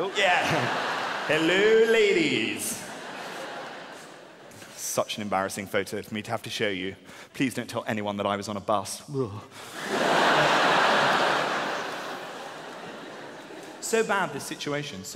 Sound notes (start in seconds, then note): 0.0 audience laughing; 10.0 audience roaring